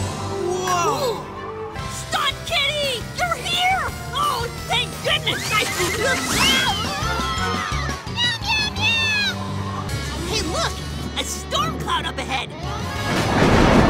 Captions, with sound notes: - Whoa! - Cool! Stunt Kitty, you're here! Oh, thank goodness! Ah! Oh! Ah! [screaming] Meow, meow, meow! Hey, look! A storm cloud up ahead! [thunderclaps]